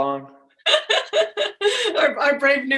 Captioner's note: laughs